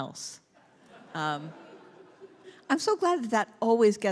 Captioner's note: congregation laughs